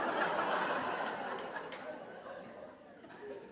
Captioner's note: laughter